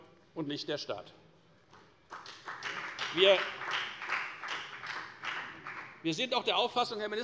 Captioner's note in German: Beifall bei der FDP